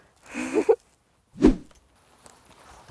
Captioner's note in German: Kichern